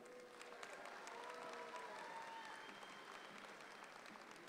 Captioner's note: audience claps